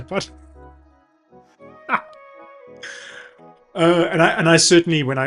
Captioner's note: laughs